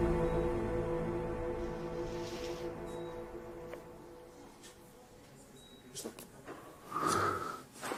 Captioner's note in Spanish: Sonido de telemetría